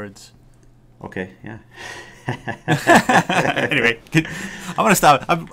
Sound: laughter

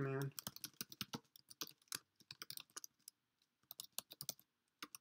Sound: keyboard typing

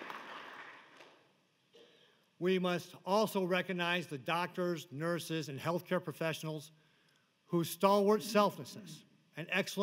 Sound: applause

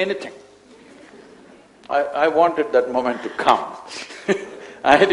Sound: laughs

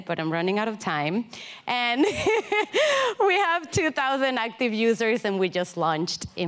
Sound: laughing

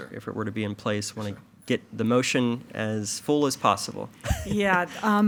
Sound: chuckles

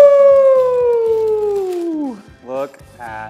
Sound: paper rustles

